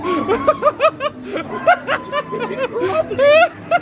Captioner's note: laughing